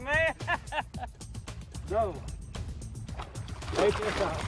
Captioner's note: laughing